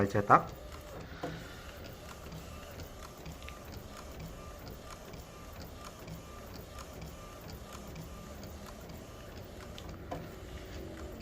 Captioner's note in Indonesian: suara mesin printer